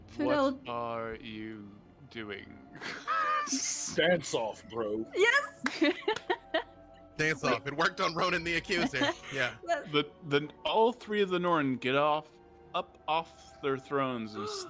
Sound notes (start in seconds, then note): 5.6 laughs